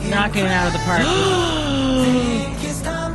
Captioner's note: gasp